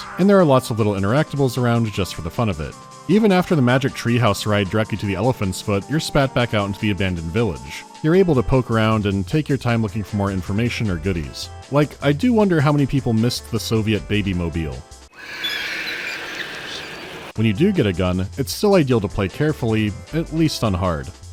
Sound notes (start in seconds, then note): 15.1 long shriek off in the distance